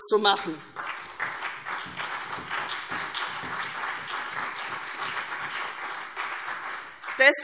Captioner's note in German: Beifall CDU